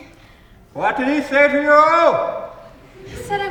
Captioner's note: audience laughs softly